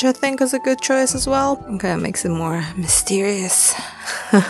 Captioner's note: laughs